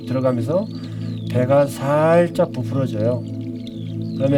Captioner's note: movement of breath